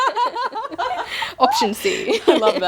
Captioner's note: laughing